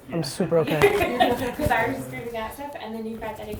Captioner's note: laughs